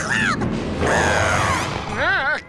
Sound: grumbling; whimpering

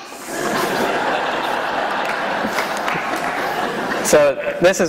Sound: laughter

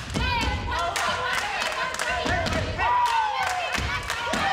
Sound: group cheers

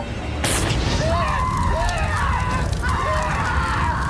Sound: explosion booms; people scream

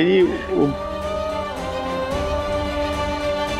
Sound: emotional vocalising

